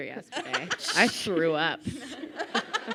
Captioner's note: laughing